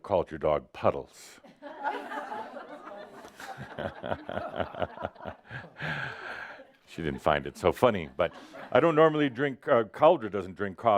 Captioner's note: laughter